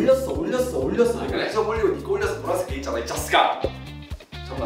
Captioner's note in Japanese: マシンガントーク